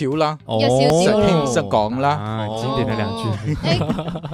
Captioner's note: Cantonese